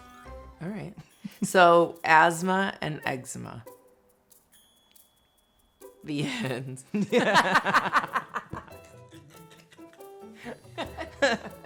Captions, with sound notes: All right, so asthma and eczema, the end. (laughs loud)